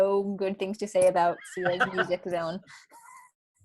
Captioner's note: laughing